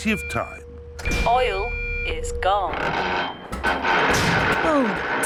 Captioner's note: creaking